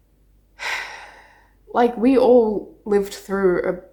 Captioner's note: sighs